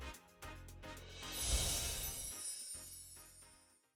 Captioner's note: chimes tinkling